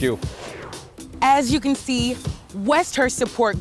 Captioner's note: graphics whooshing